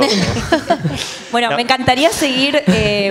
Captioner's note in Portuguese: Risos